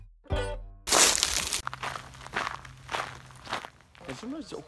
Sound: footsteps crunching

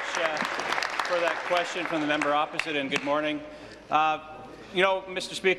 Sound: applause

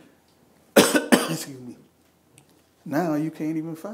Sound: coughing

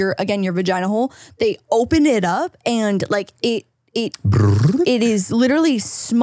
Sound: makes machine noise

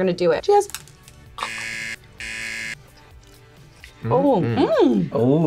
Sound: buzzer rings

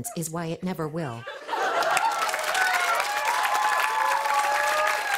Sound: cheers and applause

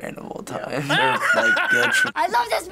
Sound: laughing

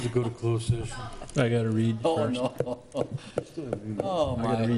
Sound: mumbling and laughter

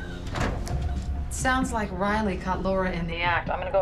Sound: normal accent

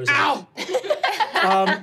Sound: laughing

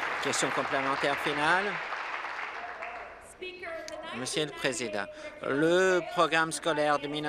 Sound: applause

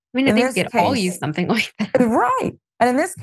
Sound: laugh

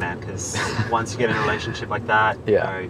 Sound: laughs

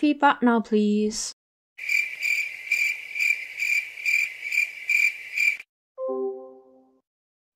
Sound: crickets

